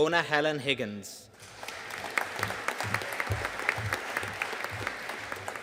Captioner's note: audience applauding